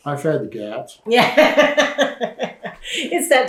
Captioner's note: laughter